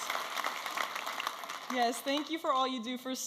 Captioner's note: audience applauding and cheering